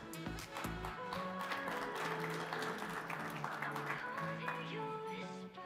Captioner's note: audience applauding; bright music